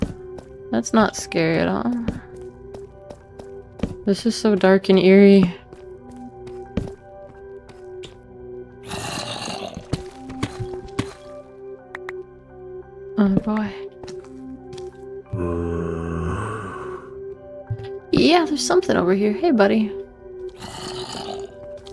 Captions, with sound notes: That's not scary at all. This is so dark and eerie. (closer zombie growl) Oh boy. (footsteps and zombie moan) Yeah, there's something over here. Hey buddy.